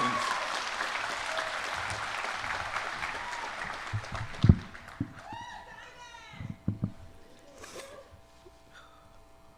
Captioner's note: applause